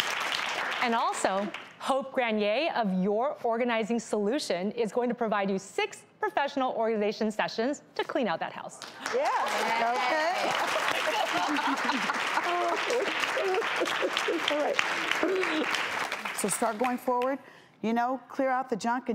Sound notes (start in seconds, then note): 8.8 audience claps; 12.3 cries